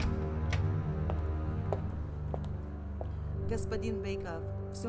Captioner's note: footsteps approaching